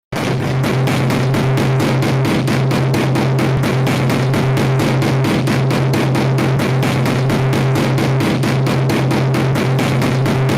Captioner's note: desk being hit hard noises